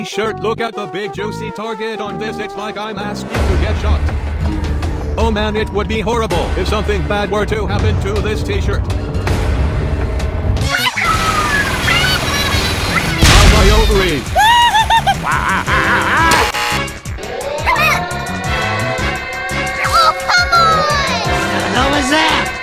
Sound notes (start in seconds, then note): 10.6 Inkling noises; 14.4 screams; 16.5 alarm